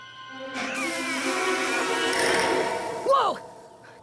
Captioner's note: creeeak!